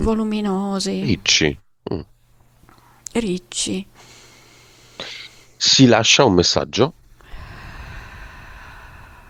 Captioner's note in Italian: sospiri